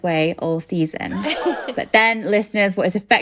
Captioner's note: shocked gasp